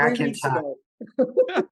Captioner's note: chuckles